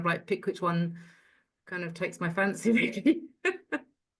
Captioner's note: laughs